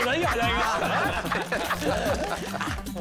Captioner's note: laughing